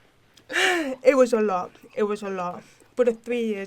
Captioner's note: heavy sigh